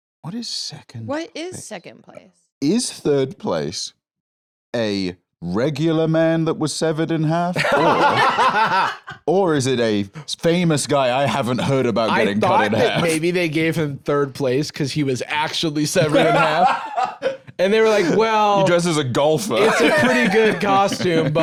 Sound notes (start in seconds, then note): 7.5 laugh; 15.9 laughs